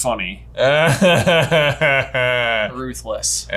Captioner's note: laughs